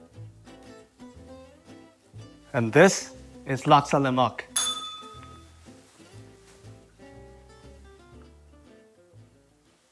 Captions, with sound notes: And this is laksa lemak. [bell rings]